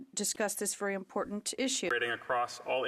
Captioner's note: speaking French